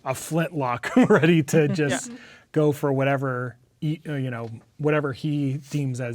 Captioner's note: laughing